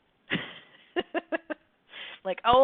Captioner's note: laughs